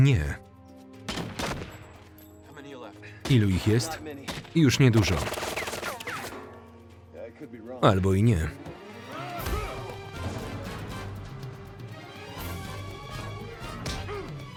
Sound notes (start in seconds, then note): 0.9 dramatic music; 1.1 guns firing; 4.9 guns firing; 7.9 dramatic music; 8.3 grunting